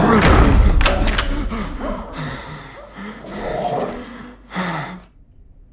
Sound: panting and dog snarling

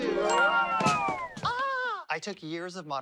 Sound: screams softly

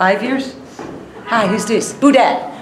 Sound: footsteps approaching

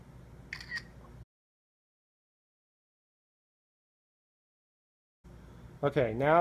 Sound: camera shutter sound

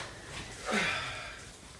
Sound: sigh

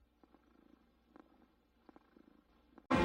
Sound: purring

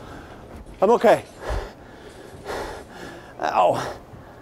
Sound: heavy breathing

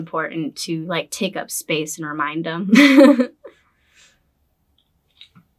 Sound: laughs

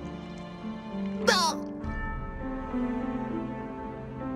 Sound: grunts

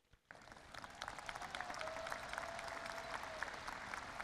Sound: audience applauding

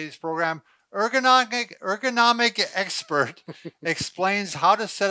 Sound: laughs

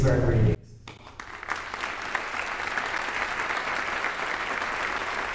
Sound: audience applauding

